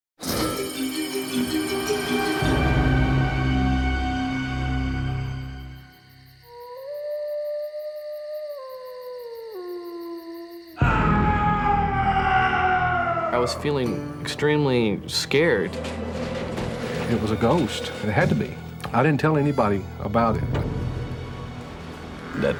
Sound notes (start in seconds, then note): 6.5 howling; 10.7 screaming